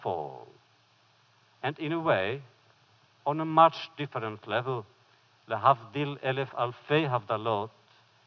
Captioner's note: foreign language